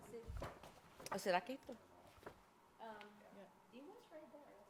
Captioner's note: speaking foreign language